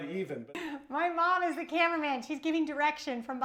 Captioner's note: laughs